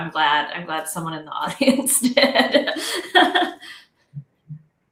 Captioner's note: laughs